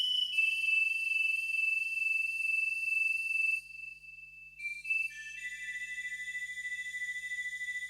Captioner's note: SFX: grass flute whistling